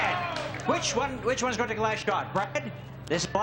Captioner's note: audience cheers